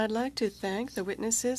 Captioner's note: speaking French